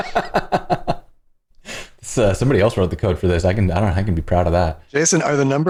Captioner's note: laughter